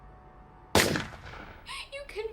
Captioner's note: gun fires